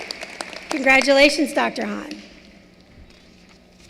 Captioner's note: applause